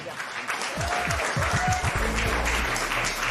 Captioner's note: applause; cheering